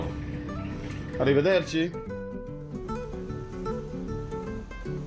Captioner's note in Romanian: vorbind italiană